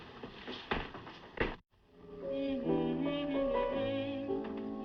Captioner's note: piano; Lucky Humming